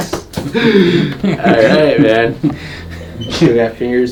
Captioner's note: laughs